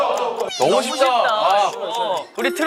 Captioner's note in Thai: พึมพำ